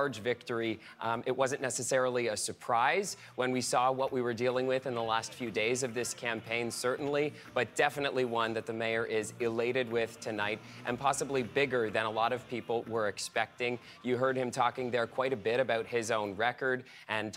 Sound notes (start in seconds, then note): none